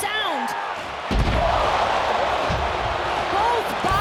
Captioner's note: mat shudders